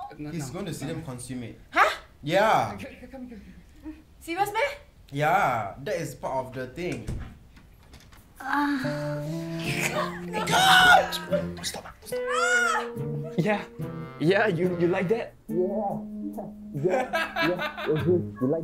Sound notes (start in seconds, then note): 8.4 moans